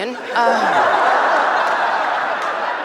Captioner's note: laughter